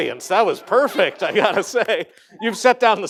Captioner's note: laughter